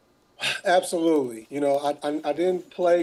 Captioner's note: sighing